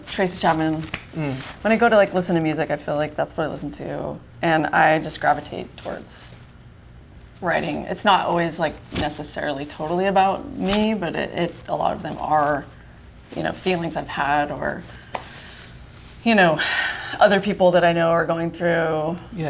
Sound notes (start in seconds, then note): none